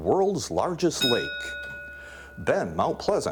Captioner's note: ding